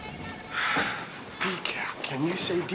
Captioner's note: sighs